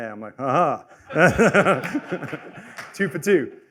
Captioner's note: laughter